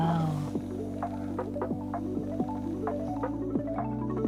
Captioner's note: blowing